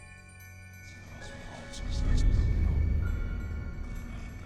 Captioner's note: whispering voices